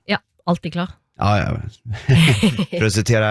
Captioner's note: both laugh